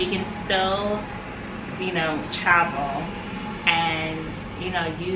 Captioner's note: ariplane engine roaring